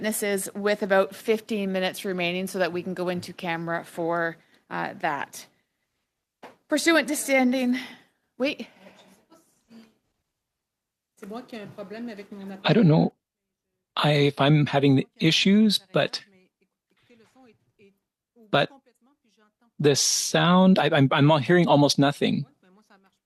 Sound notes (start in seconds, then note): 18.5 speaking French